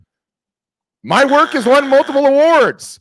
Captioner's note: buzzer beeps